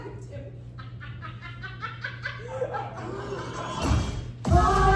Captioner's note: laughing